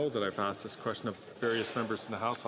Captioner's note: some Applause